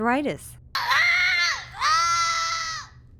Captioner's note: child screaming